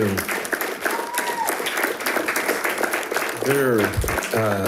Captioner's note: audience applauding